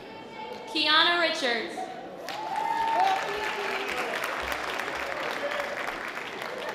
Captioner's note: light audience applause